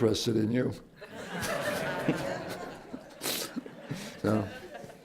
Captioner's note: laughter